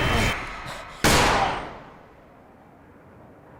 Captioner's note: gun firing